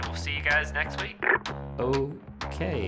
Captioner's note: phone clicks